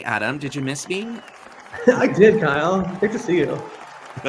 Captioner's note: audience cheers